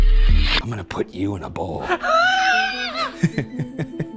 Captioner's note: dramatic music; squeals; eerie music; laughs